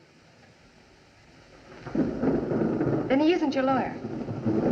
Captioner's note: thunder Rumbling